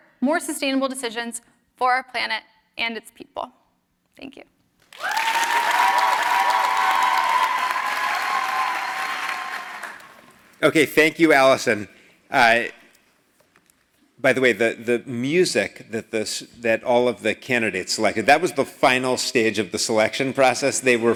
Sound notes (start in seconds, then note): 4.8 applause